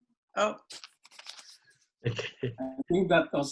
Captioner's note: laugh